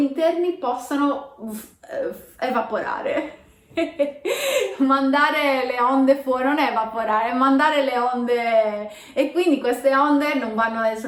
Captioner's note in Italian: risata